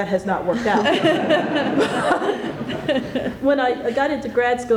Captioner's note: laughter